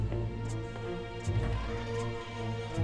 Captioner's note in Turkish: Kapı açılma sesi